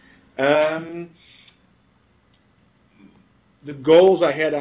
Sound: pause

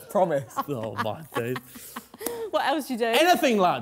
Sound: laughing

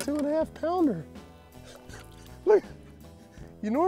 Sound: chuckles

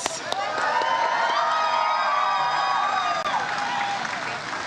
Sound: audience cheers

